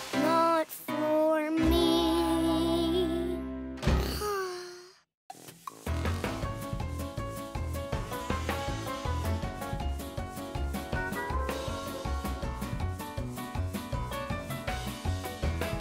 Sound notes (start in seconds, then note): 4.1 sighs; 5.8 upbeat music